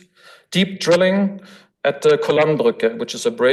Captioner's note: foreign language